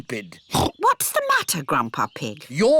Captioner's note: oinks